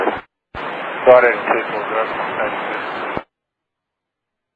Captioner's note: static